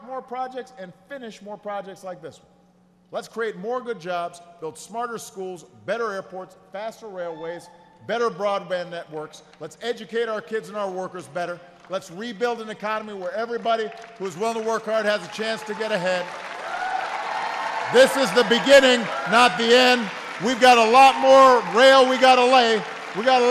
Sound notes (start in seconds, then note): 16.8 applause